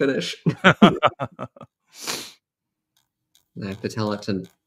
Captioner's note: laughter